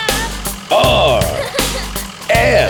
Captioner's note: giggling